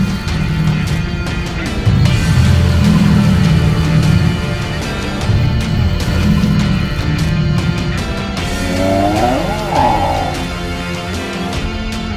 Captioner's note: roar & Prehistoric Sounds